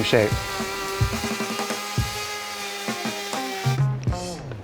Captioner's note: router grunting